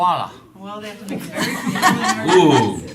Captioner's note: laughter